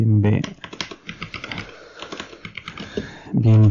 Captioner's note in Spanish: tecleo